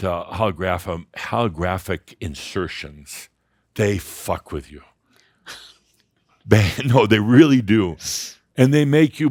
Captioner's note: softly chuckles